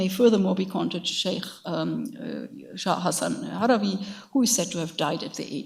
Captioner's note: speaks in a foreign language